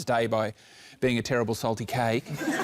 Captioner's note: laughter